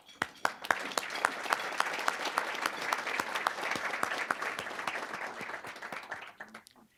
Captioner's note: applause